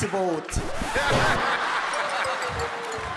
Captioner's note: crowd laughing